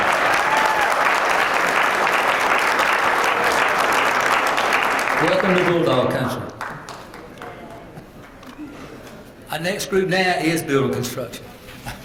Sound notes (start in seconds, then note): 3.6 applause; 11.8 laugh